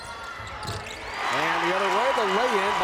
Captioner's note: crowd cheers